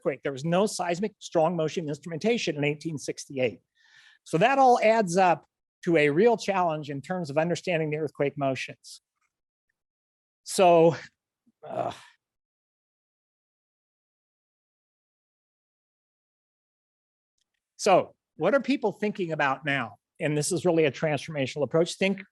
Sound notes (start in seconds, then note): 11.6 grunts